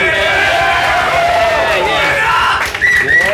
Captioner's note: applause